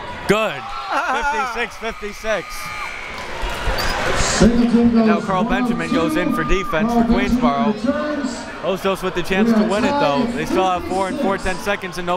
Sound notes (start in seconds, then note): 2.6 buzzer